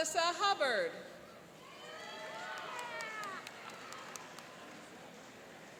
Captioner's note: cheering and applauding